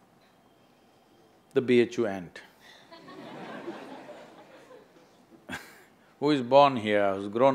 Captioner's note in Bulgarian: смях